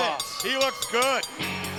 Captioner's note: bell ringing